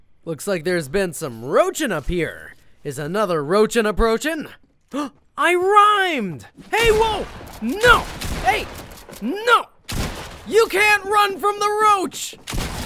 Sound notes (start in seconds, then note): 6.9 gunshot